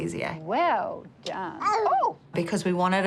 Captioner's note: exclaims